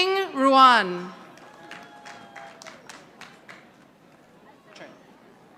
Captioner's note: audience applauding